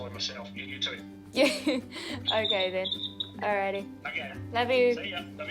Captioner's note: laughs